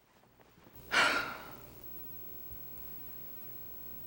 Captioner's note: sighs